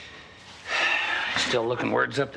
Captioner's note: Nash sighing